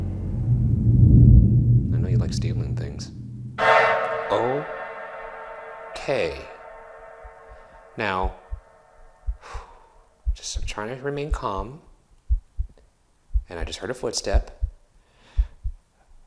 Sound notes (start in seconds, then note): 0.2 tense music; 12.2 heart beating